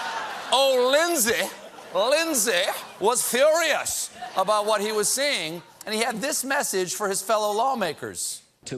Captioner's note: laughter